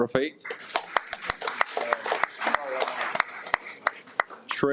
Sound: audience applauds

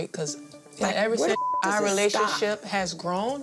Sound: beep

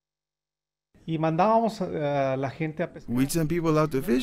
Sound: speaking Spanish

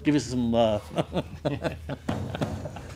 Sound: laughs

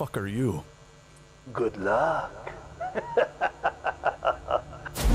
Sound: laughter

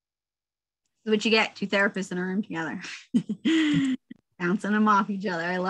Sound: laughs

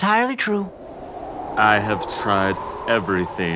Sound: wind blowing

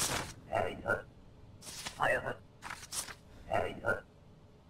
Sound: grunting

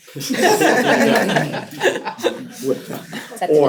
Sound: laughter

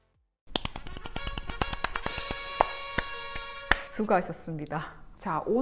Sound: clap clap clap clap clap

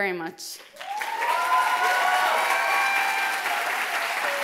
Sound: applause and cheering

